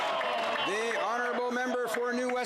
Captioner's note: some Applause